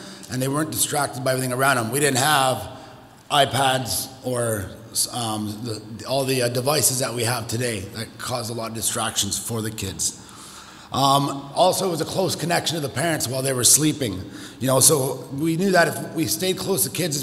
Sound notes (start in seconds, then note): none